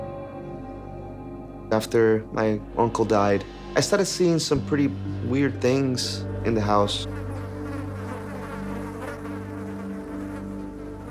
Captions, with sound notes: (suspenseful music) - After my uncle died, I started seeing some pretty weird things in the house. (flies buzzing)